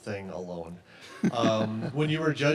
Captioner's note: chuckles